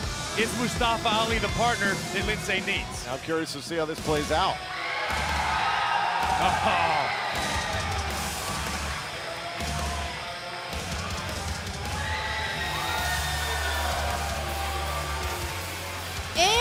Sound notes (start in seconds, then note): 6.9 cheers and applause